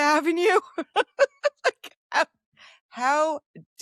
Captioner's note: laughs